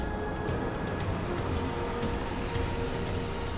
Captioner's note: van rumbling